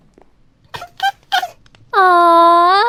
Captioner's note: cute Noises